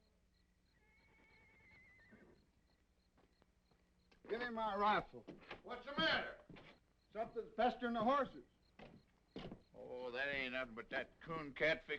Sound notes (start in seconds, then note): 0.8 horse neighing